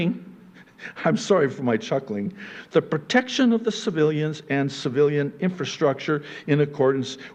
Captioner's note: I'm sorry for my chuckling